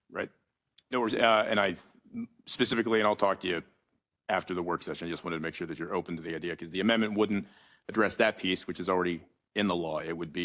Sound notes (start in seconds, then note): none